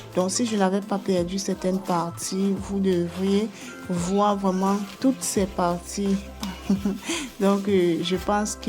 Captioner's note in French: rires